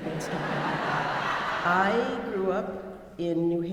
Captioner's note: audience laughing